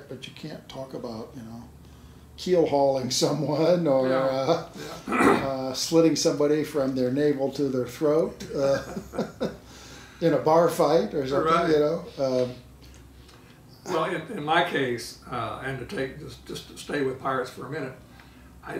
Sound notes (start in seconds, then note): 8.4 laughing